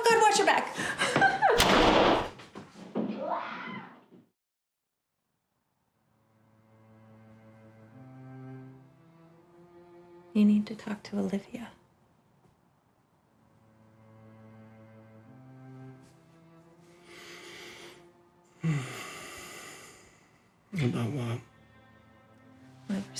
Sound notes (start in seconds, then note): 0.8 giggles; 3.2 Jane squeals; 6.1 gentle somber music; 18.6 sighs